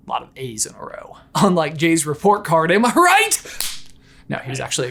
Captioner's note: claps